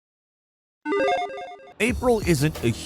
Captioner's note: logo beeping